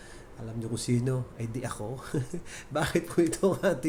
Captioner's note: laughs